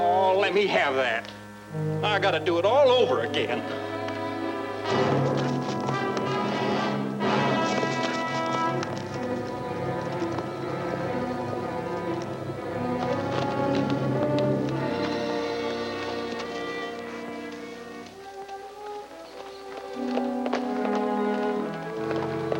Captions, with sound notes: Oh, let me have that. I gotta do it all over again. (tense music) (horse galloping) (birds chirping)